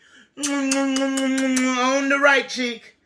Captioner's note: kisses